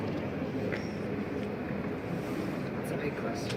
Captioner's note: intake of breath